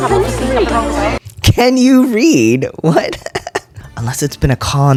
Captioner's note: laugh